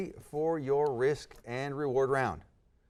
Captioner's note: none